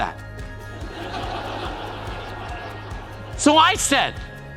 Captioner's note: crowd laugh